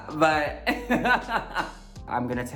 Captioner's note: Symone laughs